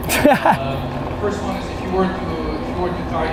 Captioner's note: laughs